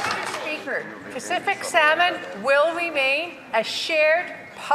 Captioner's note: some Applause